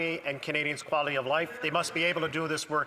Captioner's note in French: voix de l'interprète